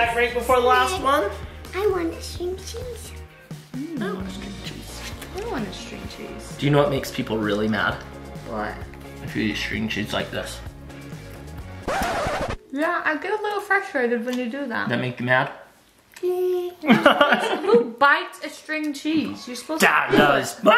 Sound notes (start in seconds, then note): 11.8 scratching sound effect; 16.8 laughing